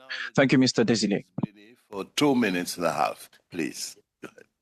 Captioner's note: speaking French